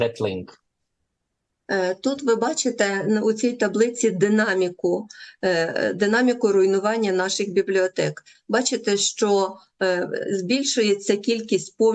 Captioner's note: foreign language